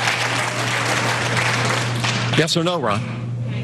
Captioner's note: applause